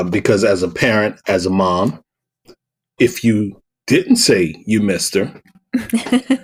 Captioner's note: chuckle